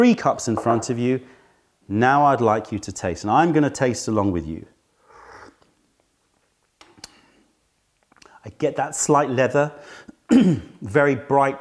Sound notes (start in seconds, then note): 5.0 sips tea